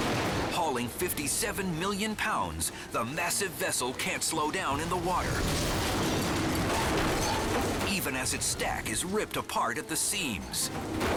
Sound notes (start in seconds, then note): 0.0 barge crashing; 0.0 bridge shattering; 5.3 barge crashing; 5.3 bridge shattering